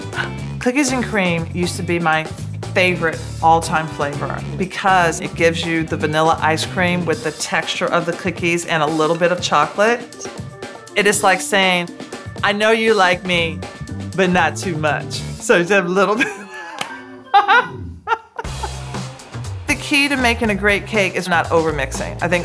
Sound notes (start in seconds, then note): 17.3 laugh